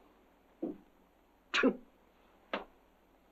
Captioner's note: scoffs